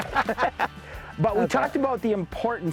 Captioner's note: laughter